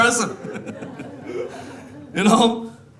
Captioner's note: laughing